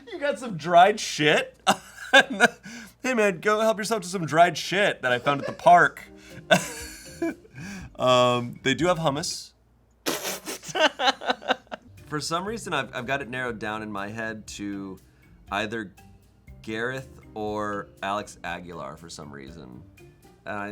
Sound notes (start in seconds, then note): 6.4 laughing; 10.1 laughing